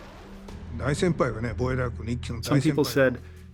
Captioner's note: speaking japanese